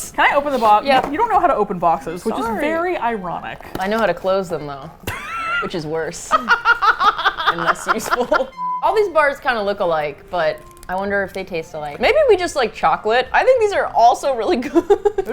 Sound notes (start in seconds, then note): 5.0 laughs; 6.3 laughs uproariously; 6.3 laughs; 14.6 laughs